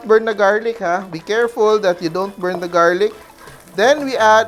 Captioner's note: sizzle